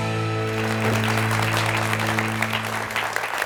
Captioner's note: applause